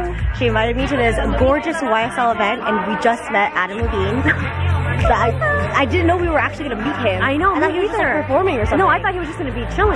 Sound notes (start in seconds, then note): 5.6 laughs